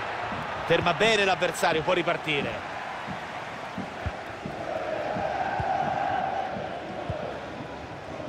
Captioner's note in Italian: Applauso